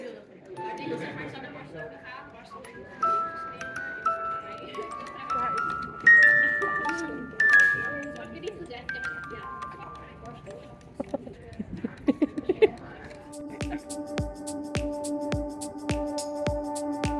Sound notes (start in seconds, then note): 10.9 laughing; 13.8 upbeat music